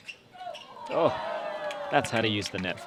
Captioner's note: crowd